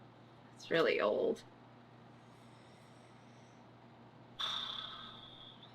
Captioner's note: exhales loudly